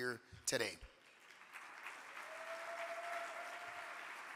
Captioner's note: audience clapping